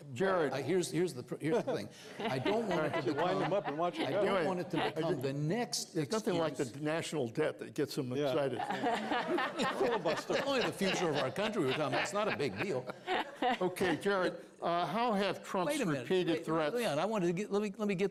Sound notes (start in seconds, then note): 10.2 laughter